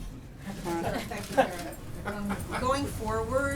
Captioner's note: laughter